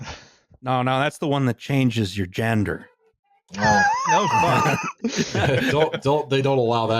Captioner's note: laughing